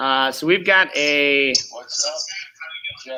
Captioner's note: video playing on Coach's computer